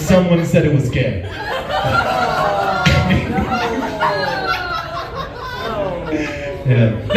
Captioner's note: laughs & groans